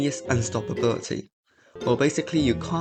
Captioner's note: silence